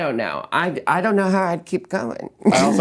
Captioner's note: laughing